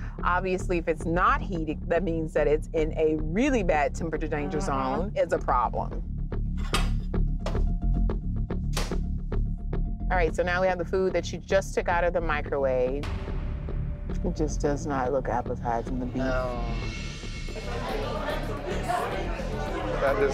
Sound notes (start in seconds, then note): 8.6 microwave door clicking; 17.5 patrons chattering